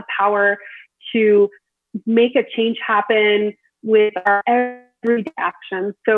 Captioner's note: audio distorts